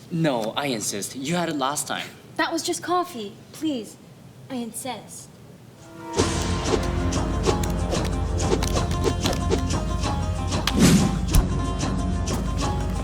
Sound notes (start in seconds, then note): 6.2 cards wooshing